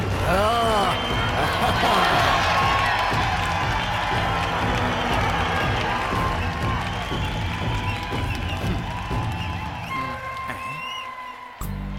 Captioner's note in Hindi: तालियाँ